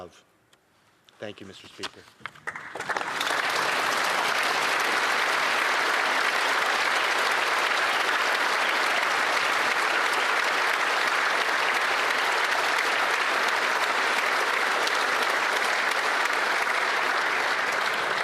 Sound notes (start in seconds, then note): 7.2 some Applause